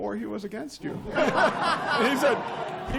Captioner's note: laughter